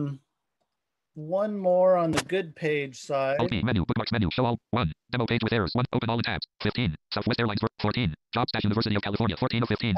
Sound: screen reader reads fast

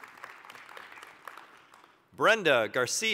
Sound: applause

